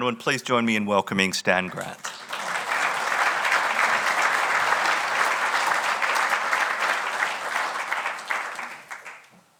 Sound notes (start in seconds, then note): 1.6 audience applauding